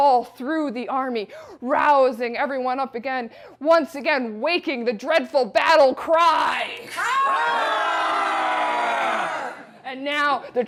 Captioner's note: audience battle cry